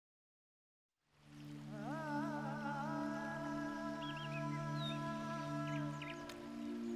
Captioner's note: birds chirping; dramatic music